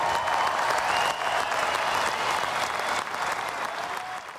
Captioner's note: cheering and applause